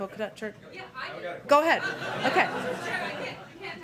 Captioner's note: laughter